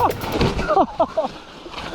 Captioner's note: laughing